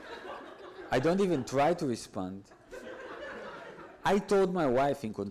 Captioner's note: audience laughs